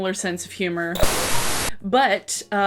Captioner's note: TV static